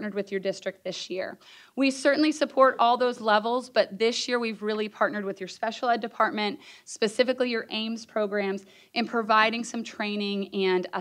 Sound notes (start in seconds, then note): none